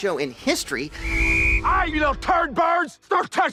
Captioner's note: blows whistle